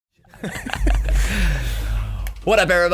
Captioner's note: laughing